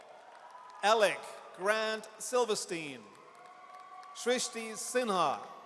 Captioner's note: audience cheers